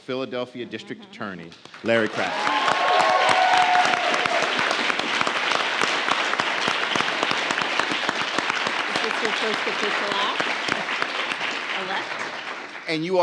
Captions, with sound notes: Philadelphia District Attorney, Larry Krasner. (audience cheers) (audience applauds) - Is this your first official act as elect?